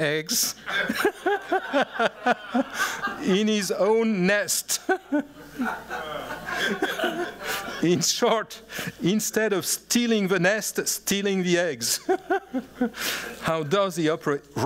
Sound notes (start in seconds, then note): 0.6 laughs; 4.6 laughter